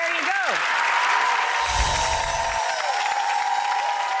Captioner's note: applause